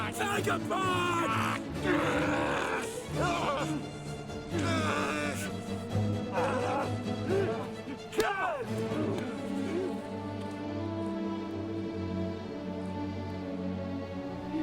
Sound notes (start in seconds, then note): 1.8 dramatic music; 4.5 groaning